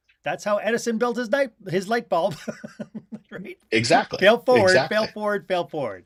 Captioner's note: laughter